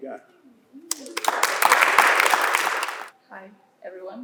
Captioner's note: applause